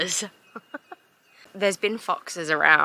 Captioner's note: awkward laugh